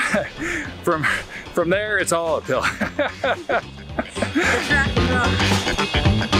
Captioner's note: laughs; funky music